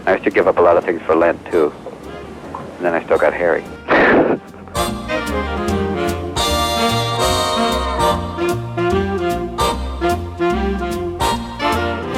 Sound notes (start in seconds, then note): 4.3 laughs; 4.3 upbeat Jazz music